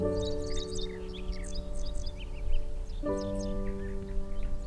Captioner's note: birds chirping; gentle music